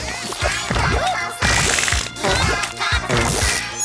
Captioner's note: squelching